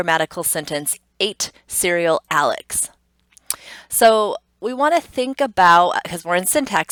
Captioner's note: tongue clicks